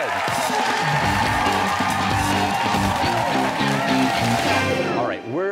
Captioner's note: cheers and applause